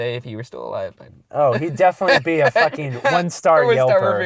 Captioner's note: voiceover